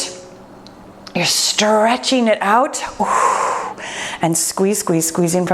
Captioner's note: exhales